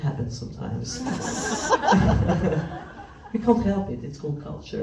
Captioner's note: laughs